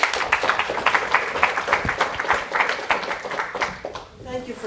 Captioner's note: applause